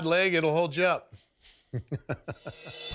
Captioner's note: laughs